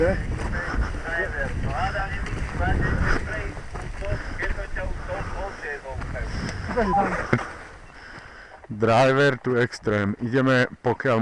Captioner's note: radio noise